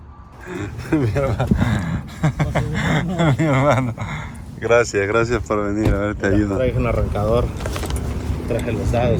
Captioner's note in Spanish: risas